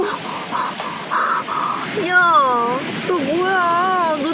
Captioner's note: gasping for breath